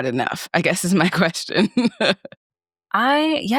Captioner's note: laughs